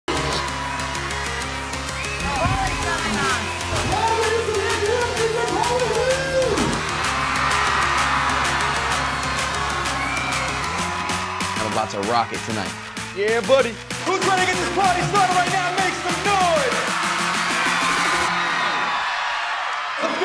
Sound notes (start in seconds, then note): 0.0 dance music; 6.9 crowd cheering; 17.0 crowd cheering